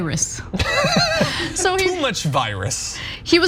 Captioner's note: laugh